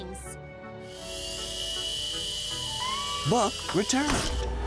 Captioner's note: drone whirring